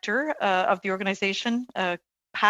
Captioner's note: speaking french